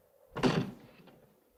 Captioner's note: door closes